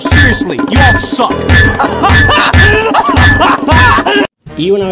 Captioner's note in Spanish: risa histérica